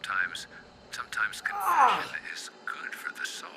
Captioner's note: Kenny screams